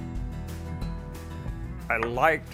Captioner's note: hammer banging